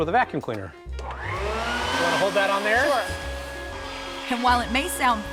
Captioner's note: vacuum